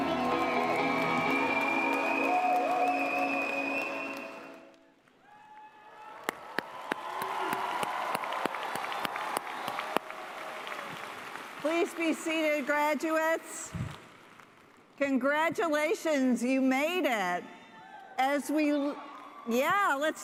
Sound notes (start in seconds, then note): 5.0 cheers and applause